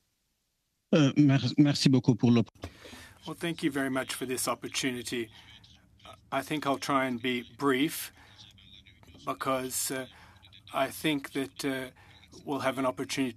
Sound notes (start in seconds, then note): 8.4 speaking French